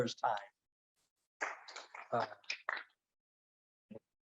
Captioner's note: audience claps